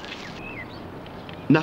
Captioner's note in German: Arbeitsgeräusche